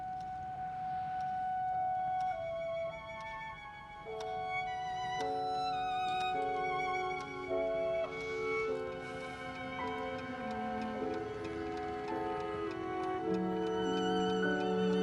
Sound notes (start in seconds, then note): 0.1 light orchestral music; 4.0 clock ticking; 10.1 dresser clock ticking